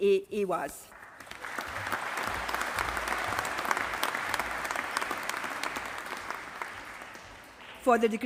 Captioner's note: applause